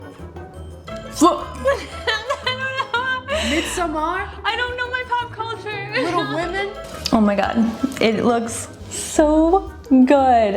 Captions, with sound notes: (comedic music) - (laughs) I don't know. - "Midsommar"? - I don't know my pop culture. (laughs) - "Little Women"? - Oh my God, it looks so good.